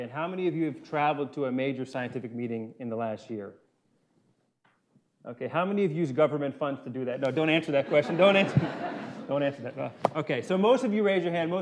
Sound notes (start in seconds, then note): 7.7 laughter